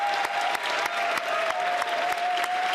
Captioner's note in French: applaudissements